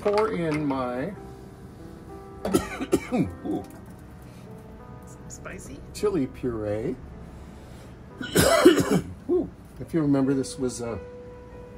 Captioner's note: coughing